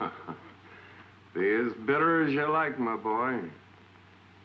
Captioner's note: laughs